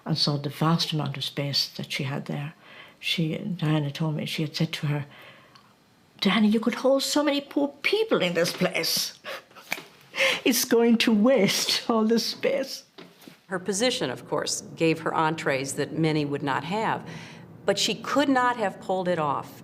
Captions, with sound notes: And saw the vast land and space that she had there Diana told me she had said to her “Diana, you could hold so many poor people in this place. [laughs] It’s going to waste, all this space.” -Her position of course gave her entries that many would not have. But she could not have pulled it off.